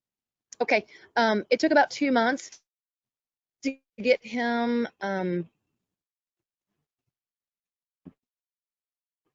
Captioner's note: sound loss